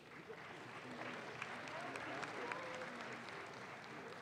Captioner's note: audience claps